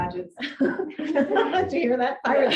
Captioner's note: audience laughing